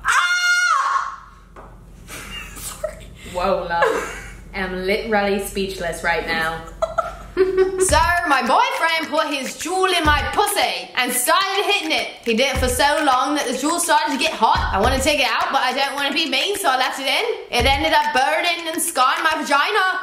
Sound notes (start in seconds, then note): 2.1 laughs; 6.6 both laugh